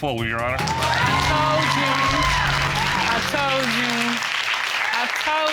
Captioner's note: cheers and applause